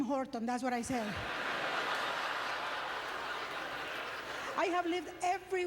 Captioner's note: audience laughter